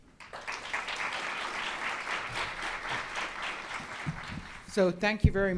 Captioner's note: audience clapping